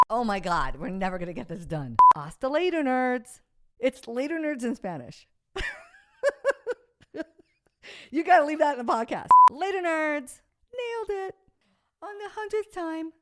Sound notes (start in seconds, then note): 5.6 laughs